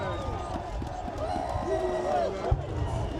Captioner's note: cheering